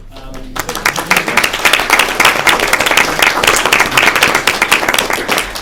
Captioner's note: applause